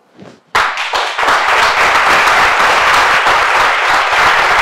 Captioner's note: audience applauds